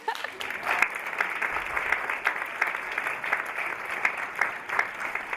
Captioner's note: audience applauding